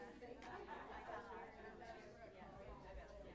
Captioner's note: indistinct chatter